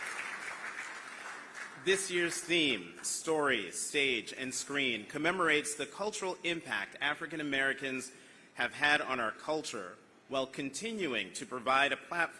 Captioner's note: applause